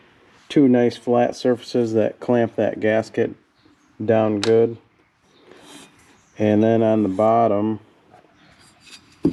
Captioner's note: snorts